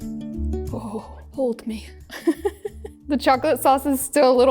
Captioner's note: giggles